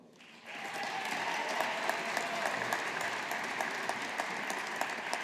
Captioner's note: audience applauding